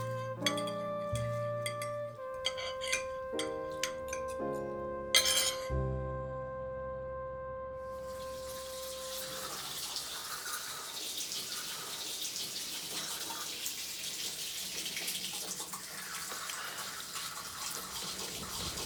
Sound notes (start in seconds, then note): 8.8 water trickling